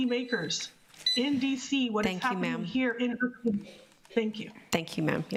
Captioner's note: buzzer